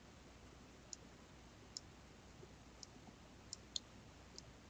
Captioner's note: mouse clicking